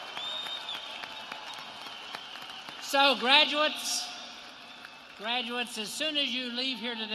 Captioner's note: applause